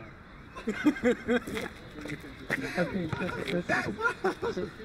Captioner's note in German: lachen